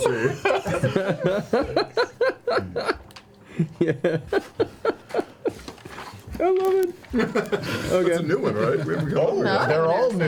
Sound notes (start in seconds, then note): 2.6 laughing